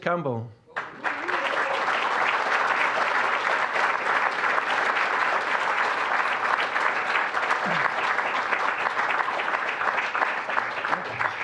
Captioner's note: applause